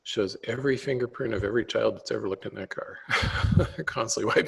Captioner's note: laughs